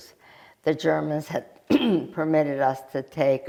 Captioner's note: clears throat